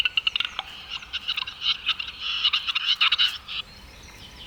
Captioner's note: bird squawking